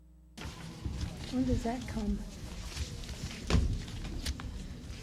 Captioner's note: papers rustling